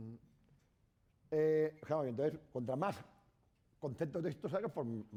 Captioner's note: speaking spanish